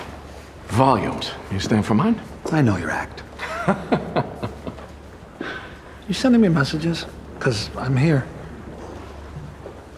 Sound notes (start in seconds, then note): 3.4 laughing